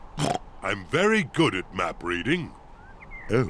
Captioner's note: oinks